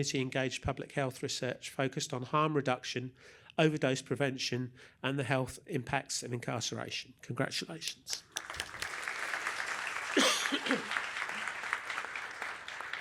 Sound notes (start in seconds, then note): 8.0 applause